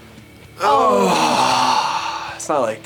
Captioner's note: yawning